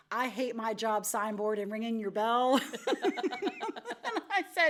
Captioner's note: laughs